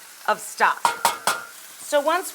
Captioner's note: spoon bangs pot